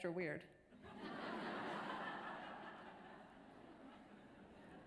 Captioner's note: audience laughter